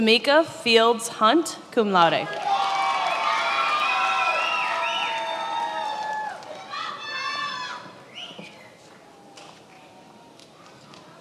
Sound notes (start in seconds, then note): 2.3 attendees applauding and cheering